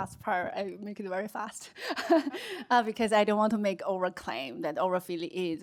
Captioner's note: laughs